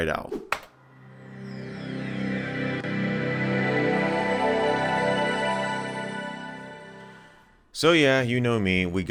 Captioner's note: Windows 98 Startup Sound